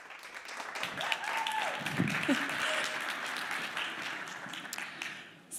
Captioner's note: applause